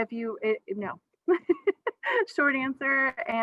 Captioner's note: laughs